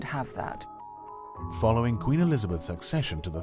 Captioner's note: voiceover